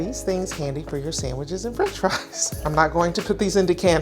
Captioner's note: laughs